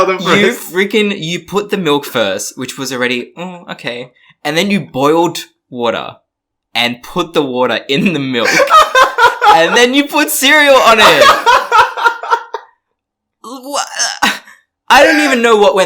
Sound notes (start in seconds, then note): 0.0 laughs; 10.8 laughs; 13.0 stammers